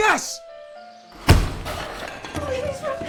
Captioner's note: furniture slamming